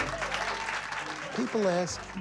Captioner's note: crowd cheering